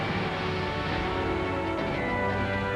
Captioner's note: hissing